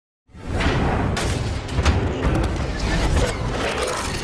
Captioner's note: metallic clinking